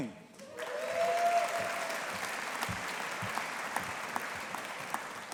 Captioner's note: audience applauding